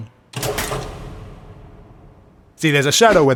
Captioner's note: loud switch